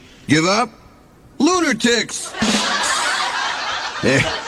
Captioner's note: laughter